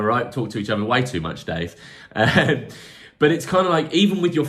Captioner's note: laughs